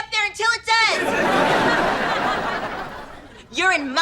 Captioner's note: audience laughter